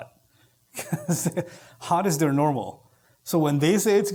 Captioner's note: chuckle